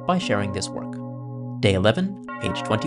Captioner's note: sound of bells